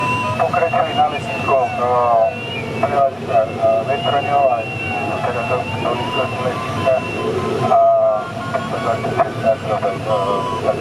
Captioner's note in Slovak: zvuky z rádia